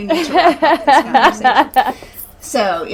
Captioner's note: laughing